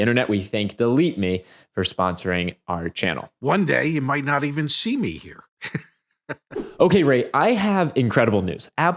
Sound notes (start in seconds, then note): 6.2 chuckling